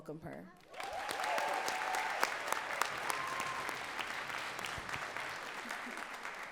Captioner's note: audience cheering and clapping